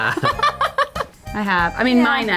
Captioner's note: laughing